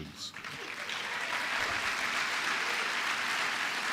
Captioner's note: applause